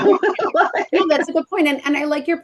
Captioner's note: laughs